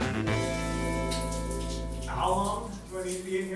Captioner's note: water splashing